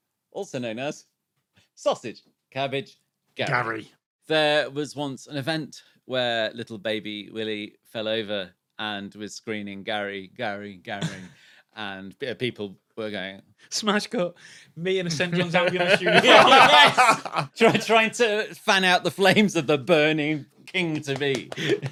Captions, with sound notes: "Also known as Sausage, Cabbage, "Gary." Gary. There was once an event where little baby Willie fell over and was screaming "Gary, Gary, Gary." And people were going... Smash cut, me in a St John's Ambulance uniform. Yes! (group laughing) Trying to fan out the flames of the burning King-to-be.